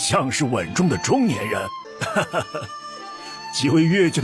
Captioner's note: laughter